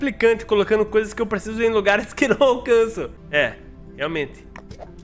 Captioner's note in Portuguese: risos